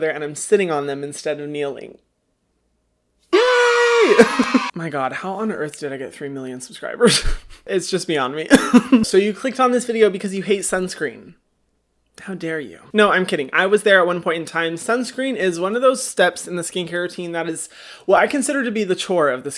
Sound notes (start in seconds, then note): 3.3 crowd cheering; 7.1 laughing